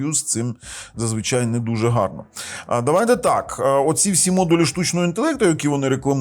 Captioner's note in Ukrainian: сопіння